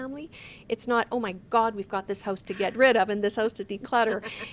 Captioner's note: laughs